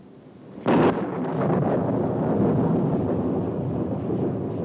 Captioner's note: loud thunderclap